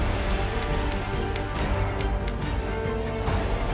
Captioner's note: typewriter clicking